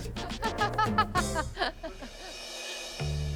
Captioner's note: laughs